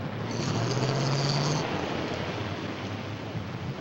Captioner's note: car rumbling